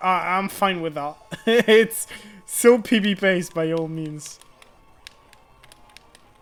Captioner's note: laughter